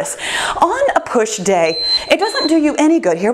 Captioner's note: timer beeps